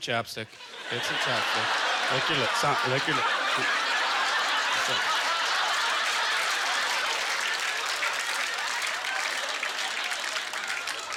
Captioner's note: audience laughter